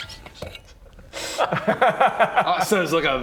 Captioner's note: laughs